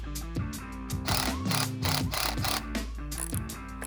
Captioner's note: whirring